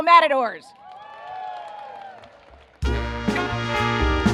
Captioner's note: cheers and applause